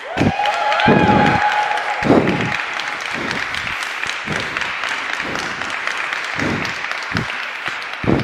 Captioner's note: applause